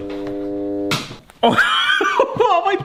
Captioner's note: can opener clicks off; laughs